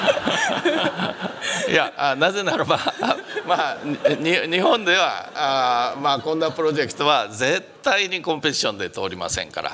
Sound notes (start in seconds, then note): 2.1 speaking japanese